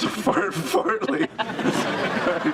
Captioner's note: laughs